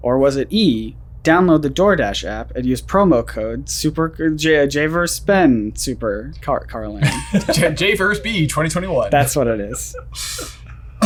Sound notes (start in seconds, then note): 7.0 both chuckle